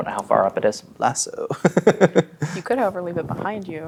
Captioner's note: chuckles